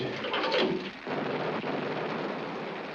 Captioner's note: explosions continue